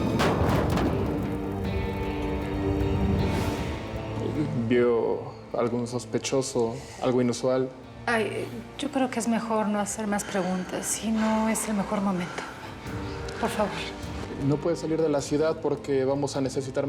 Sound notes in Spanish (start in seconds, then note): 0.0 crujir de las llamas; 0.0 estruendo